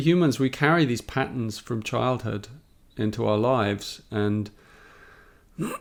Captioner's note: clears his throat